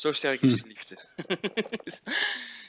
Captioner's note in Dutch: laughs "uncontrollably"